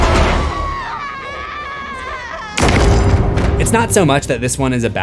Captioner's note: screams